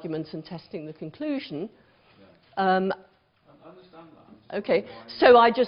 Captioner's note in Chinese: 無聲